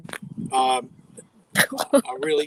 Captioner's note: chuckling